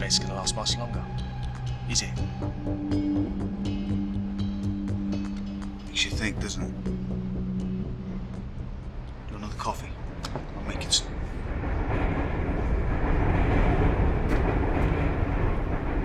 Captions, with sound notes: I don't think that respects gonna last much longer, is it. (suspenseful music) - Makes you think doesn't it? Do you want another coffee? I'll make it. (train rumbling)